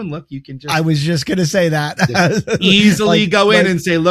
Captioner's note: chuckles